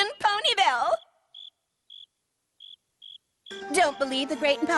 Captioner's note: crickets chirping